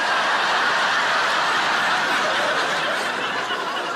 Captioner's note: audience laughs